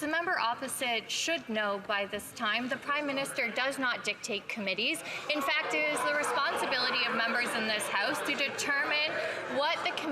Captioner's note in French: voix de l'interprète